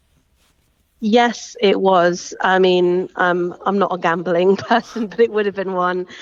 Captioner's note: chuckles